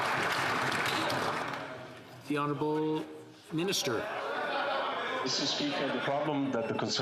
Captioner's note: some Applause